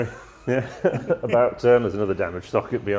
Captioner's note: laughing